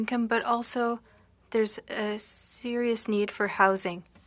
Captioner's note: speaking French